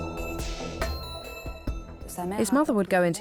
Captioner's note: non-english speech